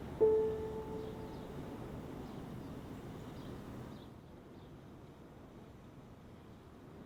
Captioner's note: birds chirping